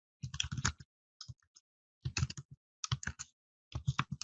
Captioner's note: keyboard clicks